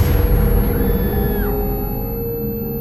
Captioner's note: Rose screaming